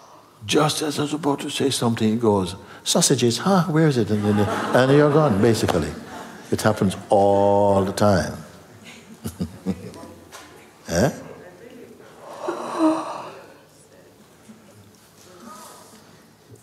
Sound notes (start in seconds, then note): 8.8 laughter